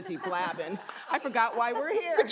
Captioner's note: audience laughs